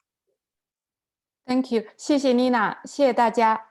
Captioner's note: speaking in Chinese